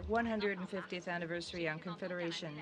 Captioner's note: speaking French